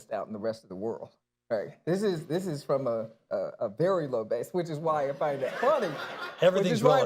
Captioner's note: laughter